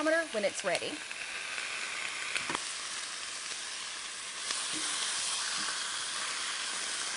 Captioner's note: sizzling sound